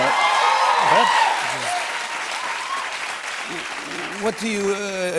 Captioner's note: cheers and applause